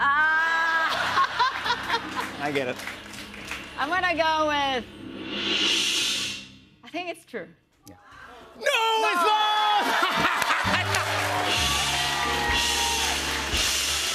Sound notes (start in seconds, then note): 0.8 laughs; 9.8 laughs; 11.4 cheers and applause